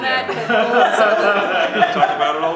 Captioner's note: laughter